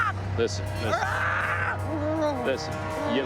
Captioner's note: screams